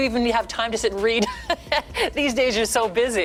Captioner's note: laughs